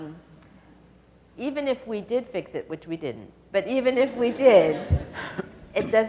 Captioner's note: audience laughs